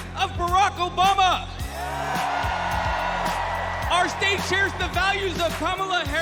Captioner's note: cheers and applause